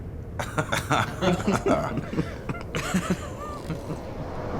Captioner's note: laughing